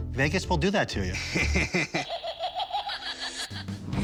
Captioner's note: laughs; menacing laughter